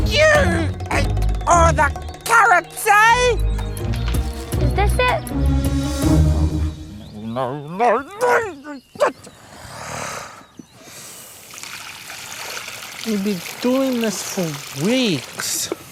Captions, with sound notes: You ate all the carrots, eh? - Is this it? - No, no, no... (GRUMBLES) - We've been doing this for weeks.